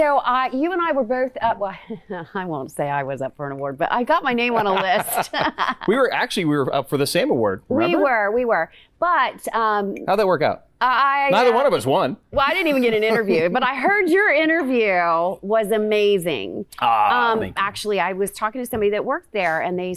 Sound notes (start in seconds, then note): 4.4 both laughing